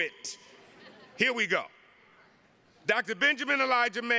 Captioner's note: attendees laughing